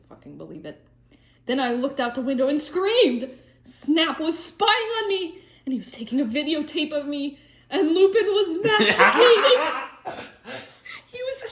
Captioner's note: laughter